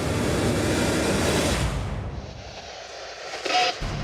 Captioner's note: static, distorted voice